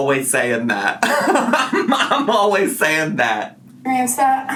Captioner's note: laughs